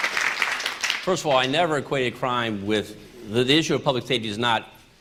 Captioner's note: applause